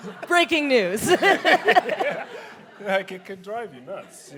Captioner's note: laughs